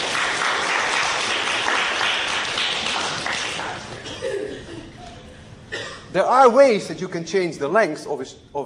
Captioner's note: applause